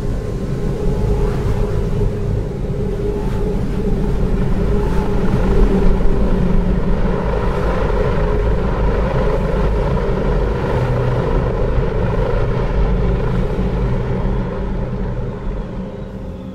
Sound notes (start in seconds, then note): 0.1 wind blowing; 7.6 helicopter whirring